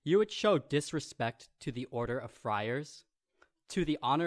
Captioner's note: none